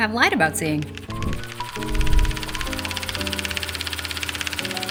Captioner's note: film projector whirring